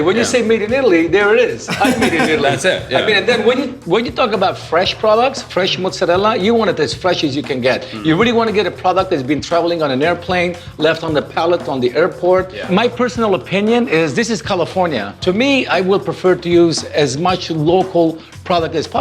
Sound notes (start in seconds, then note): 1.6 laughs